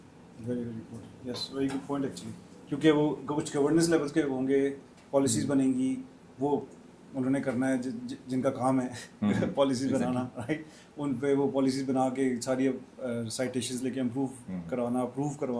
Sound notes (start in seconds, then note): 9.2 sound of clearing throat